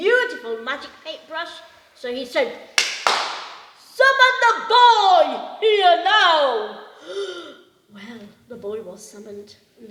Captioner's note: clapping hands